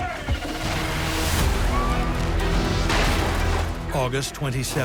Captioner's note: screams